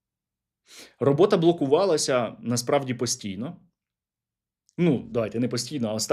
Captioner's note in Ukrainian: сопіння